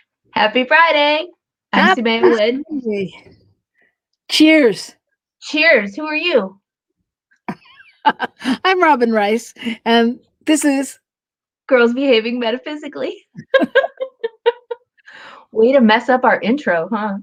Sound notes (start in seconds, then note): 7.0 laughter